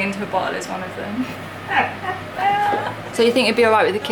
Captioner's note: laughs